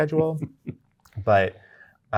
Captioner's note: guy chuckling